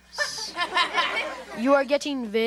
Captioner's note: audience laughs